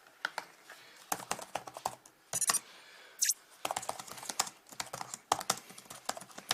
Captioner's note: sound of typing and messages